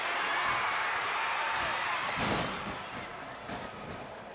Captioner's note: fans shouting